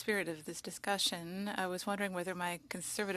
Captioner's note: speaking French